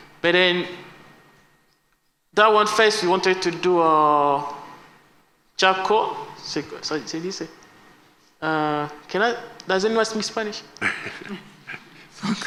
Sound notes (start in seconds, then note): 7.3 spanish